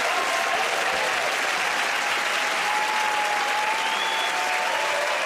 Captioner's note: cheering and applause; whistling